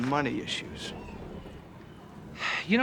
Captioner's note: sighs